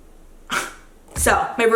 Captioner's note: scoffs